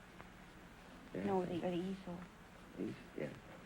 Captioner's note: whispering